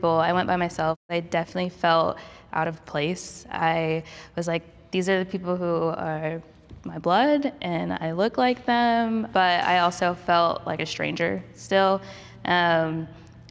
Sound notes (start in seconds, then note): none